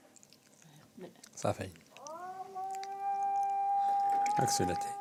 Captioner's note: Arabic spoken audio